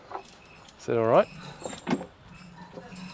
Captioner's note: squeaking pulley